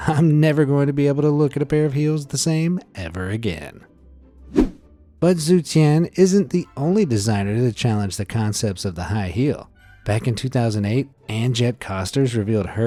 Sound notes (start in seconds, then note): 4.5 image whooshing